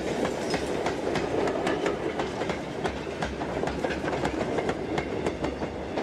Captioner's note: train passes